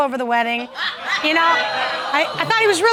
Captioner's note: audience exclaiming